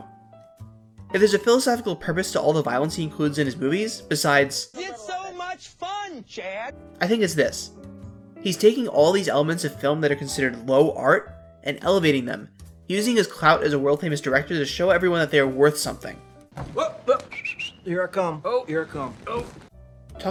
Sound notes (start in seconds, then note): 17.0 whistles